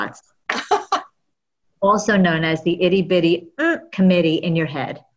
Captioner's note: laugh